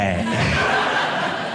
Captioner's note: audience laughing